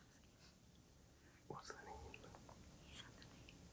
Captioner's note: group whispering